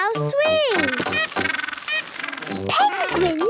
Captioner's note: honking